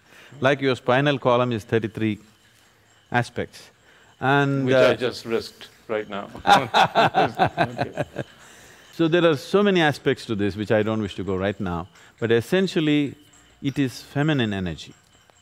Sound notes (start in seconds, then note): 6.3 Sadhguru Laughs